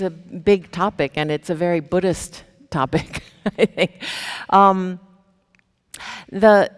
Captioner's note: chuckles